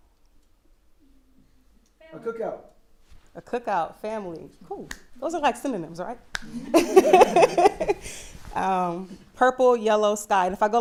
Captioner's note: laughter